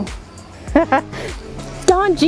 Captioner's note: laughs